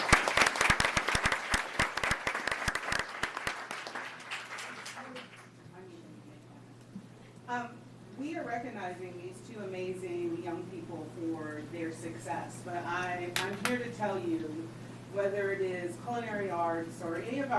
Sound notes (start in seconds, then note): 5.2 applause